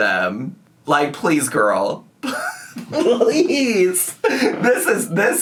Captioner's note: laughs